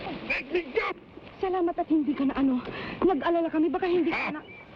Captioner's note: woman speaking in Tagalog